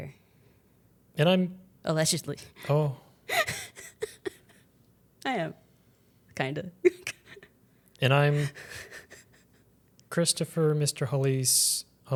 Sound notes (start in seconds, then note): 3.3 laughs; 7.1 chuckles